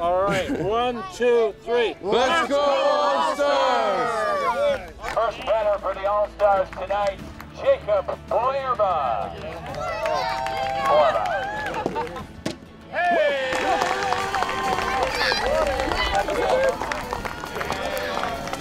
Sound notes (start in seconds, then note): 2.2 crowd; 4.4 cheering; 12.9 crowd cheering